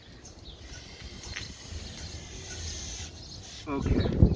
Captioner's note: spray whistling